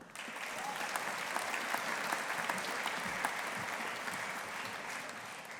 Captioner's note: audience applauding